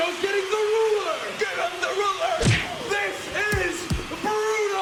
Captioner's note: thwack; thud